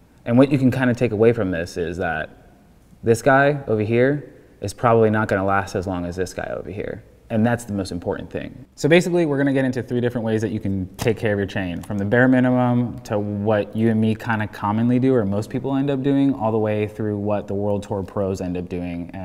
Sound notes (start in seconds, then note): none